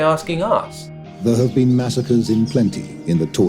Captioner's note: soundbite of archived recording